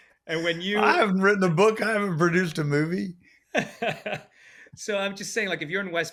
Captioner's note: laughs